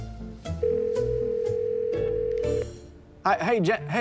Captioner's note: line ringing